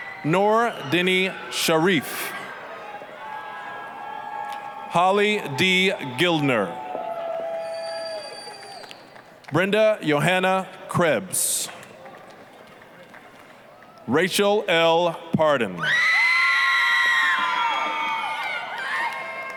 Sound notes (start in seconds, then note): 2.7 applause, cheering; 11.8 applause; 16.1 applause, cheering